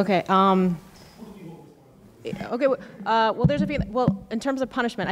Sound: speaks quietly without mic

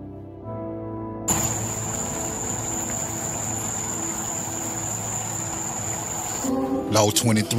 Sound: outdoor night time noise

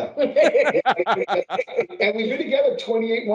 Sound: laughing

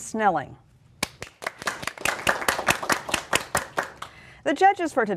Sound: applause

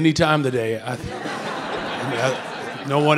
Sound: audience laughing

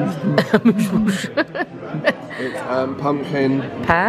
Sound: laughs

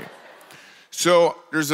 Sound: congregation laughs

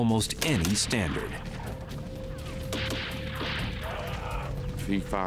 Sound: gunshots

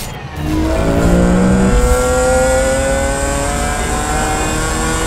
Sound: car engine rasping

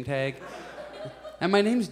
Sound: audience laughs

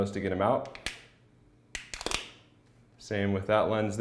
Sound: plastic popping and snapping

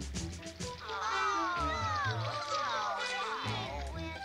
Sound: all exclaiming

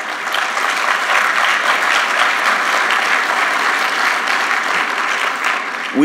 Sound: applause

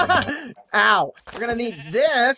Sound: laughs

